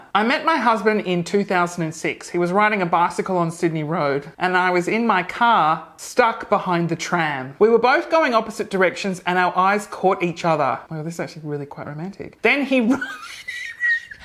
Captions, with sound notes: "I met my husband in 2006. He was riding a bicycle on Sydney Road and I was in my car, stuck behind the tram. We were both going opposite directions and our eyes caught each other." Wow, this is actually really quite romantic. "Then he (laughs),